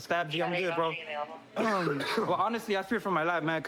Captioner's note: coughs